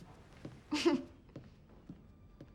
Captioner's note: confused laugh